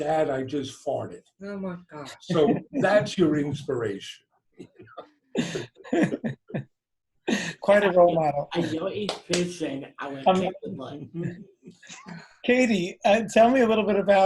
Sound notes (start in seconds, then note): 5.3 laughter